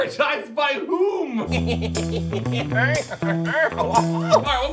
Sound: cynical laugh

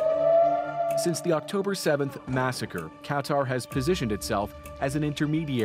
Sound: sirens

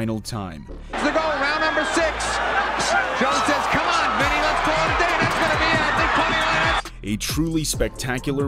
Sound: crowd cheering

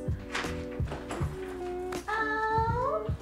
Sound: door creaking

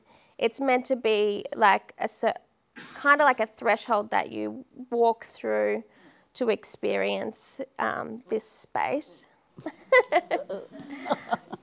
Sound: laughter

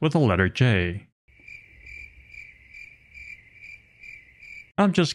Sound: crickets sound effect

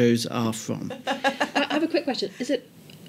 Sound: laughter

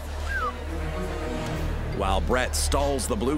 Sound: whistles

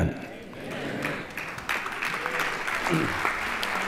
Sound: applause

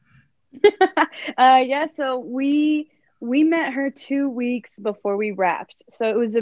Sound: laughs

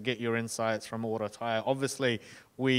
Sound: speaking in foreign language

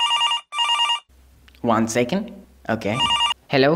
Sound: phone rings

